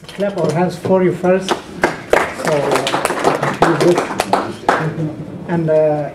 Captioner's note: applause